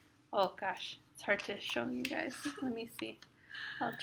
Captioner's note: laugh